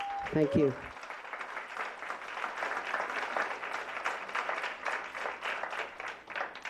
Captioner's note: applause